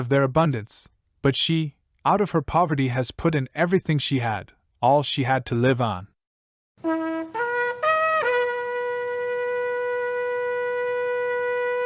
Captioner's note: shofar blast